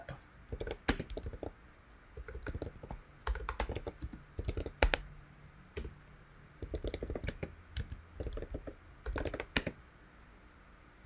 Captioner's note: typing